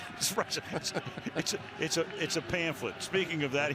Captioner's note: laughter